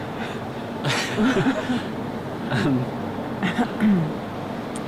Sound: both laugh

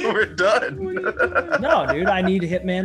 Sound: laugh

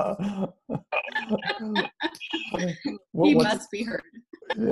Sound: laughing

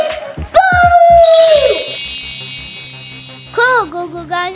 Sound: magic wand

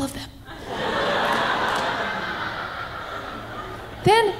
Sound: audience laughing

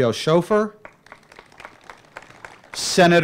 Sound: applause

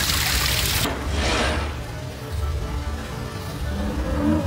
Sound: dinosaur moaning

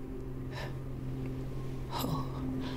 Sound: sighs

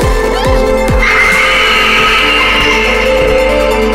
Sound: screams

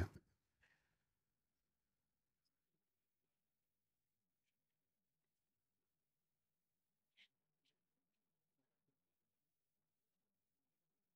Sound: silence

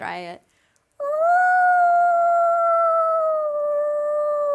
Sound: screeches

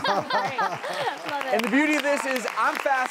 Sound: laughing; applause

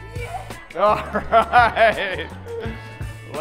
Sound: laughing

